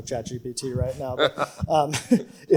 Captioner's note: panelists chuckle